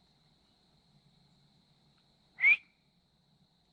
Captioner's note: whistles